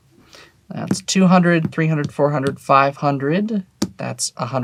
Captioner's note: tapping table